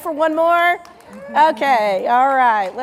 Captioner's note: audience member cheers